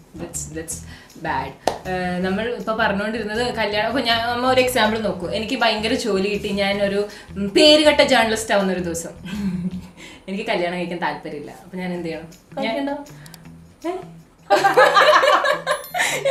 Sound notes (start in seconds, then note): 8.8 ambitious laughter; 14.5 laughter again